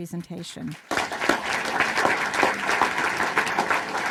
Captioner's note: applause